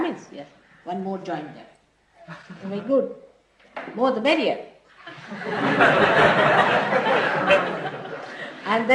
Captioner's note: laughter